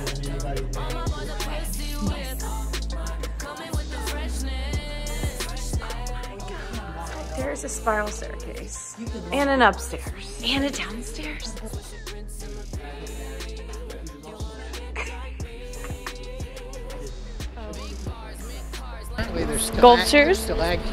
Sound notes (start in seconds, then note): 12.5 confused chuckling